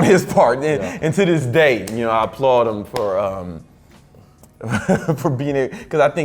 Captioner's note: laughs